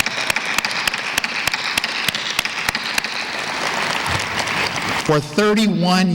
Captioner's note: applause